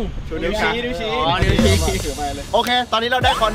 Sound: laughs

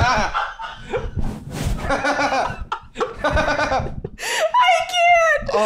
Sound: all absolutely losing it; all still laughing

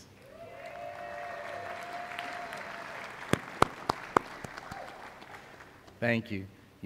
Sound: applause

